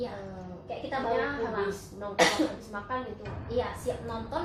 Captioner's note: cough